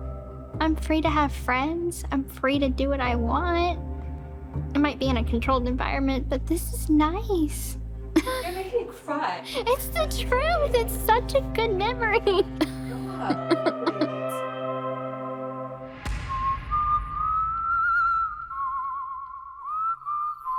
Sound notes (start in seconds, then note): 8.1 laughs; 12.4 laughs; 15.7 light music playing